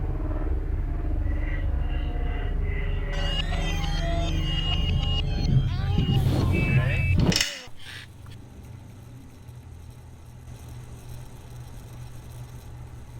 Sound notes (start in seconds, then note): 0.0 helicopter whirring; 3.7 screeching